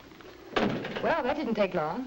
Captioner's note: door bangs shut